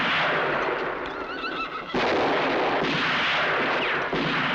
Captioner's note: horses whinnying